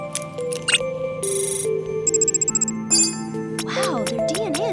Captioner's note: beeping